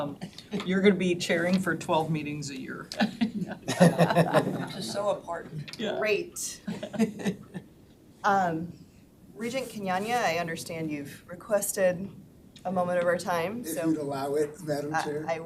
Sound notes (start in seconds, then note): 2.9 all laughing